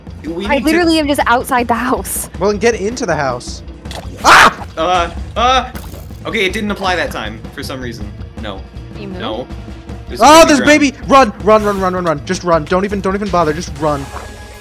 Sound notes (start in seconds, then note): 0.0 stammers; 4.2 screams